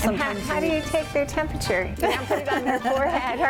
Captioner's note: laughs